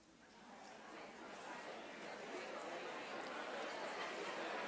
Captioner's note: audience murmurs